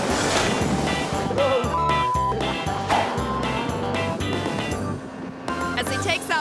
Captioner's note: beep